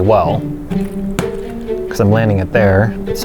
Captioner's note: plastic bottle flap sound